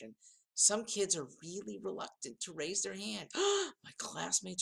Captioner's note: gasp